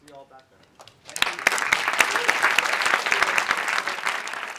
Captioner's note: applauds